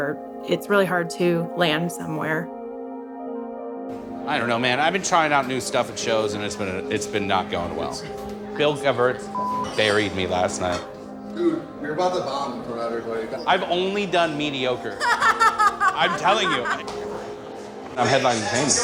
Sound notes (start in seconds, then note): 9.4 beep; 14.9 friend 2 laughs